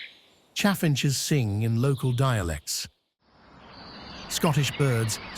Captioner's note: birds chirping